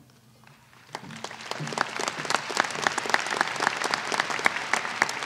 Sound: applause

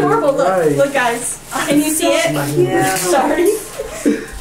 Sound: laughs

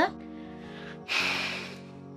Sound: sighs

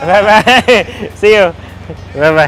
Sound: chuckles

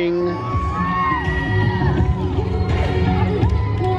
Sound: cheering

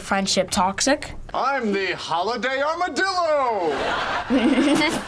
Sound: laughs

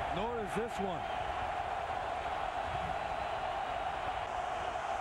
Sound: cheering, applause

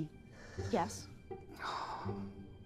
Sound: Tom sighing

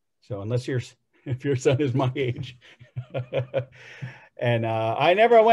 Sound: laughs

